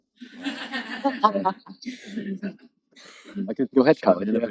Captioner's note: laughing